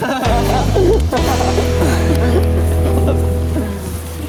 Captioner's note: laughing